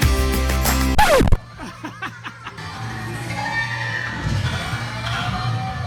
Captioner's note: record scratch; husband laughing